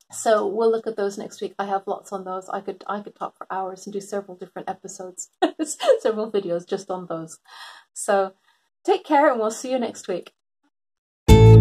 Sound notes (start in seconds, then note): 5.4 laughs